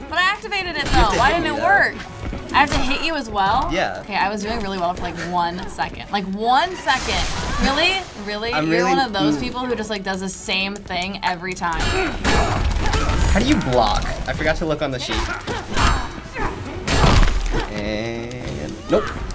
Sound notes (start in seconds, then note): 11.7 in game: clanking and grunting